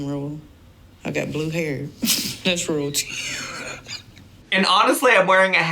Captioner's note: laughs